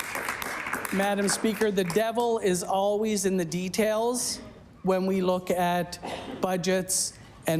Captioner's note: applause